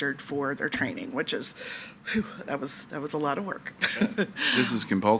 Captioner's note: laughs